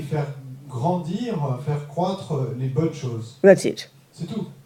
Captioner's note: French